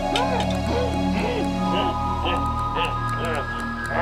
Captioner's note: exclaiming